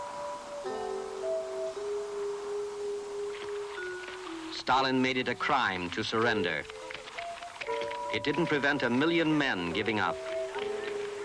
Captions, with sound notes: (footsteps splashing) Stalin made it a crime to surrender. It didn't prevent a million men giving up.